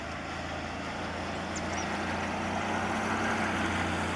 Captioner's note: birds chirping; sounds of a vehicle driving